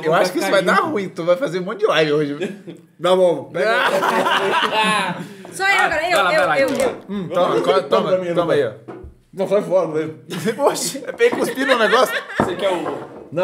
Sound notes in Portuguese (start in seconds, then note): 3.7 risos